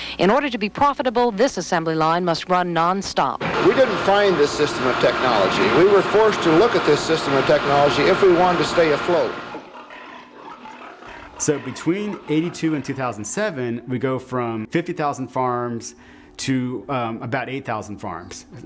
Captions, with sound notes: In order to be profitable, this assembly line must run nonstop. >> We didn't find this system of technology. We were forced to look at this system of technology if we wanted to stay afloat. [pigs grunting] >> So between '82 and 2007, we go from 50,000 farms to about 8,000 farms.